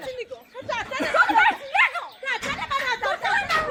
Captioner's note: laughter